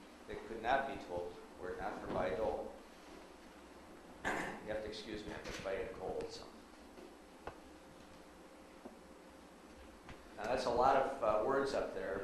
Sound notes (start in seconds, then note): 4.2 clears throat